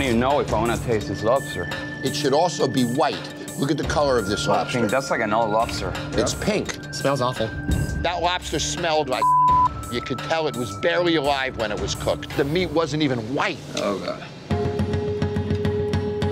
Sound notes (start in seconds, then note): 9.2 beeps